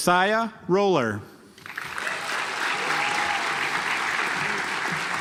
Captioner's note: audience applauds